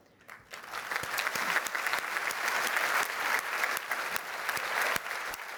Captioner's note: applause